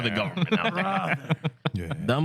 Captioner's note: laughter